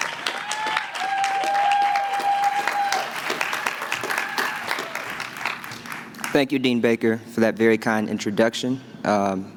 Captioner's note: applause